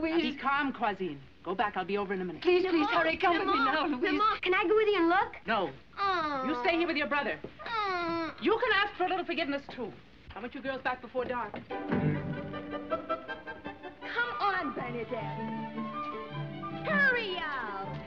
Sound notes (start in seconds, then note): 5.7 whining